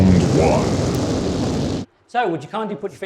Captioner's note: deep voice; flames billowing